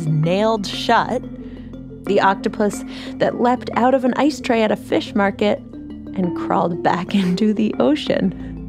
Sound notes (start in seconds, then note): 5.8 laughs lightly